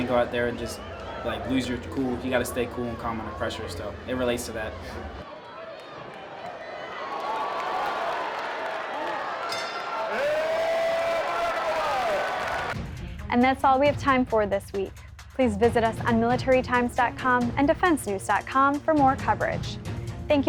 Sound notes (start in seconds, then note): 6.9 crowd